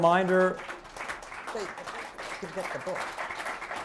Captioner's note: applause